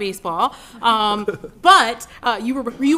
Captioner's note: laughter